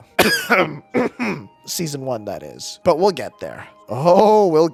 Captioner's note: ahem